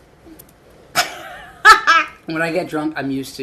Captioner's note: laughing